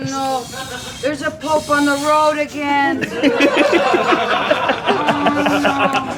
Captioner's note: laughter